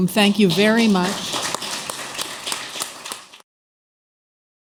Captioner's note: applause